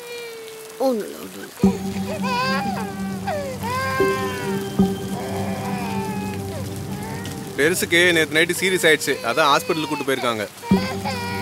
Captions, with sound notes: Hush baby... (Rain sound) Old man was unwell they took him to the hospital.